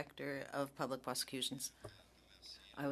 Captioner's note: speaking French